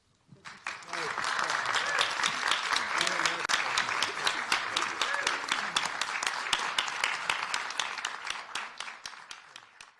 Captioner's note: applause